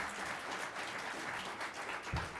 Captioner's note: applause